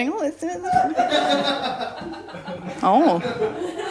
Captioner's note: laughter